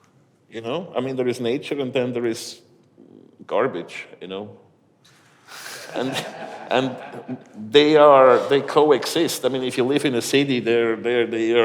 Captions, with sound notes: you know, I mean there is nature, and then there is garbage, you know? (audience laughs) And, they are, they coexist. I mean, if you live in a city, they’re,